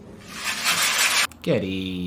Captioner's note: box shakes